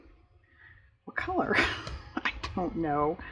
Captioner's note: laughs